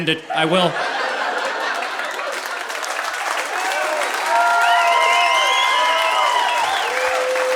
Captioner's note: audience laughing; audience applauding